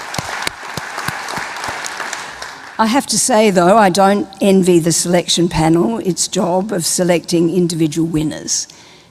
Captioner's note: applause